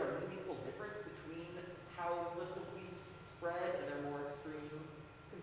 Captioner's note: speaking softly